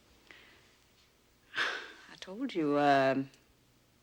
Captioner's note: chuckles softly